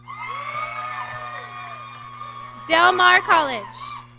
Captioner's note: audience cheering